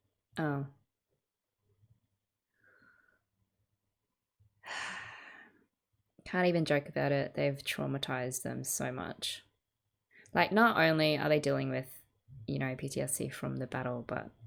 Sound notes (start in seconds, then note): 4.6 sigh